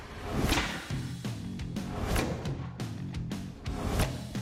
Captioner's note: thudding